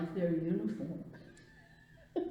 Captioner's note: laughs